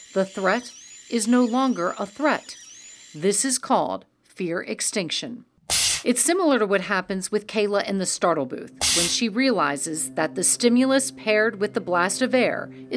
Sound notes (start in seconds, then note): 5.7 machine blasting air; 8.8 machine blasting air